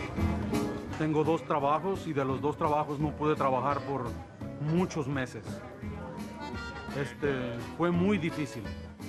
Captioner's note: Spanish